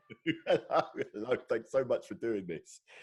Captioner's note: laughing